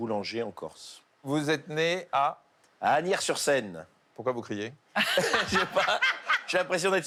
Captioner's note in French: rires